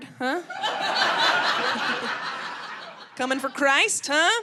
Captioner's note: crowd laughing